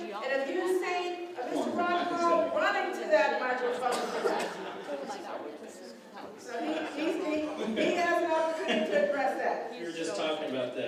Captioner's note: laughter